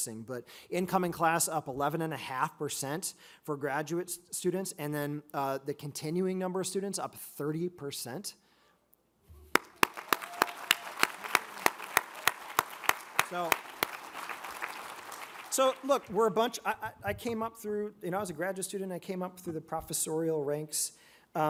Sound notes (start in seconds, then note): 9.5 audience cheers; 9.5 all applaud